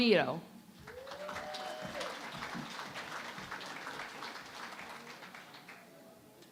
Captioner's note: applause